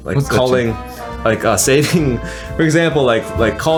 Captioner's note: on phone